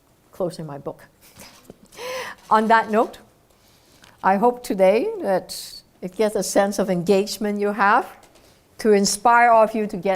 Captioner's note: laugh